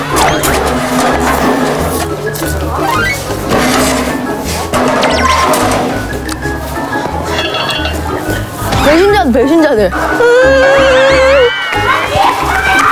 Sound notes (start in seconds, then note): 2.7 slurps up the last noodle; 10.1 cries